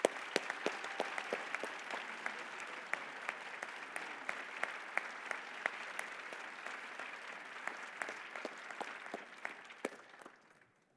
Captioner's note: applause